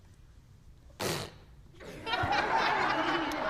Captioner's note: young person blows raspberry; loud laughter from congregation